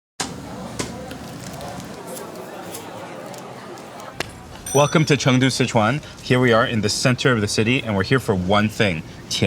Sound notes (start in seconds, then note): 0.7 dough slapping; 1.4 noodles squelching; 2.3 customers chattering